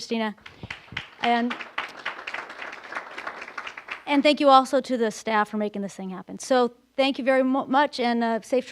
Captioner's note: applause